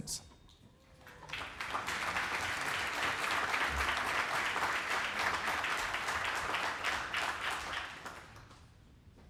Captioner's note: applause